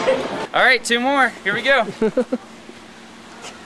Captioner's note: laughing